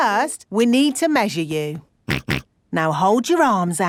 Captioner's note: snorts